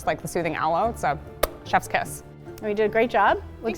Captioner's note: makes kiss noise